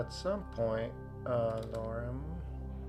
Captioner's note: keyboard clicking